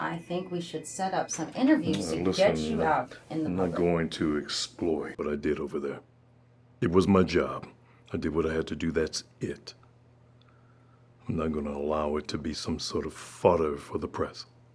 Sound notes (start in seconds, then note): none